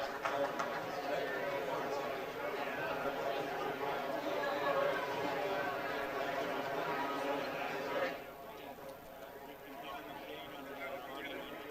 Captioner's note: applause